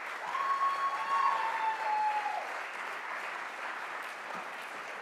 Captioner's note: audience cheers